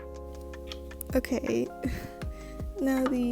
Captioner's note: laughs